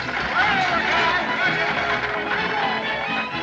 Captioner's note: all Shouting